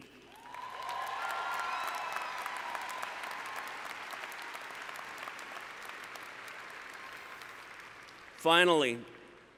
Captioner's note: cheering